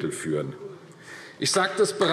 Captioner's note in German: Beifall AfD